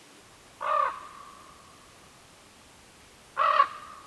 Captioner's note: bird squawking